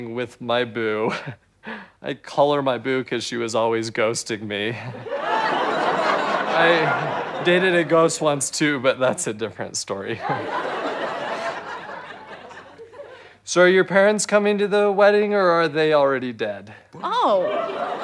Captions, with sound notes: with my boo. I call her my boo 'cause she was always ghosting me. [audience laughs] - I dated a ghost once too, but that's a different story. [audience chuckles] - So are your parents coming to the wedding or are they already dead? - Oh.